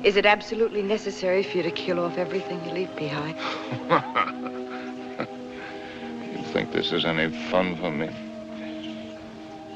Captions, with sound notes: is it absolutely necessary for you to kill off everything you leave behind? [ Angry Laugh ] You think this is any fun for me?